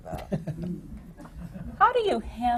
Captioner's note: laughter